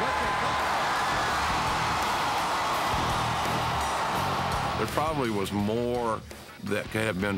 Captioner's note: applause